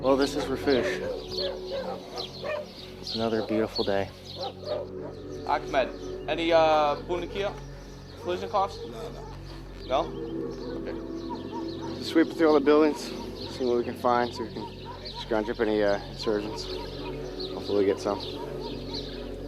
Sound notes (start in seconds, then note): 7.3 in Arabic